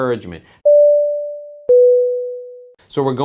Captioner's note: beep